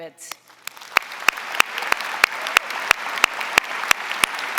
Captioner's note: audience applauding